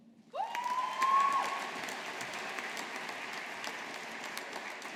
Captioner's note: audience applauding